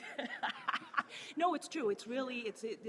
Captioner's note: laughing